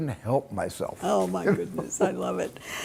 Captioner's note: Steven laughing